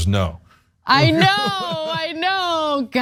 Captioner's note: laugh